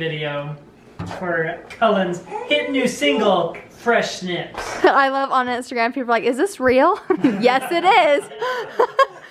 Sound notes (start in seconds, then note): 6.9 laughter